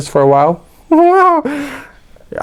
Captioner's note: big laugh